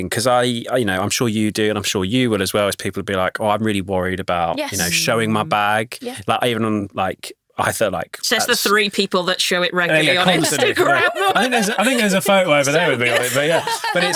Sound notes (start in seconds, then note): 10.1 laughing